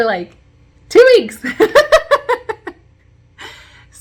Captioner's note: chuckle